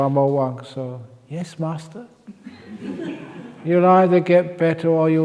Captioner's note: laughs